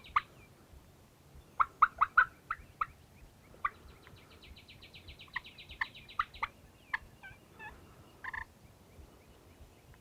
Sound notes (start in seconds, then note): 1.5 imitating turkey gobbling; 4.8 turkey gobbling and birds chirping